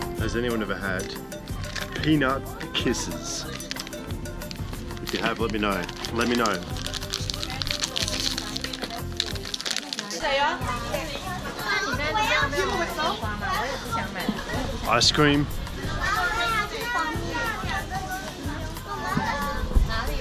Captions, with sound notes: Has anyone ever had Peanut Kisses? If you have let me know, let me know. (ripping package) Ice cream. (crowd chatters in Filipino)